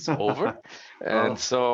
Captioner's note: chuckling